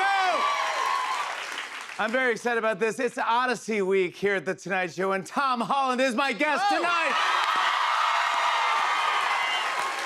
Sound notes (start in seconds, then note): 0.0 cheers and applause; 6.4 cheers and applause